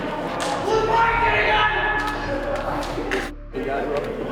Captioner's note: group yelling